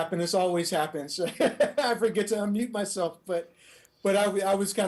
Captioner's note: laughing